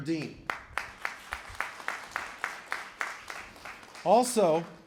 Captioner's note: applause